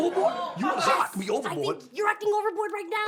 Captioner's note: audience laughs